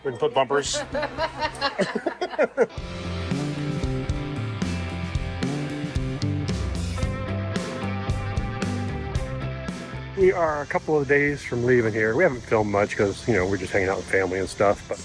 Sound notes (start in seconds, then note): 0.6 laughs; 2.1 upbeat music